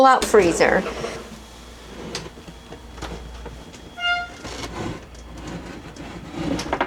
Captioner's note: door creaks